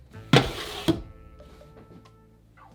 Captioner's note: sheet pan sliding